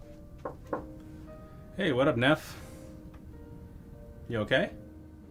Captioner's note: knocking